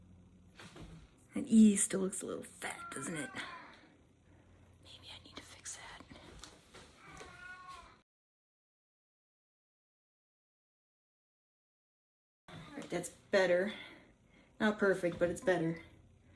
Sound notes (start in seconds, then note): 2.7 meowing in background; 7.0 meowing in background